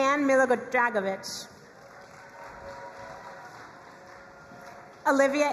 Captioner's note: crowd cheering and applauding